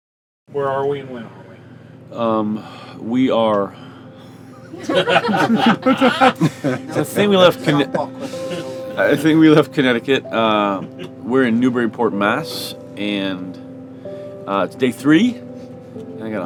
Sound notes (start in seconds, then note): 4.3 group laughs; 4.3 laughs; 4.6 laughing and speaking indistinctly